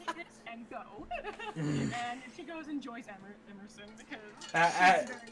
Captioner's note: laughs; annoyed noise